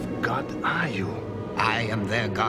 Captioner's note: none